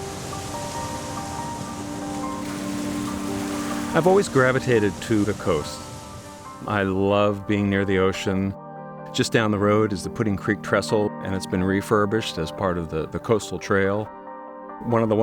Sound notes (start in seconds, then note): 0.2 gentle music; 3.1 crashing waves